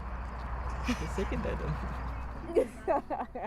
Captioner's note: laughter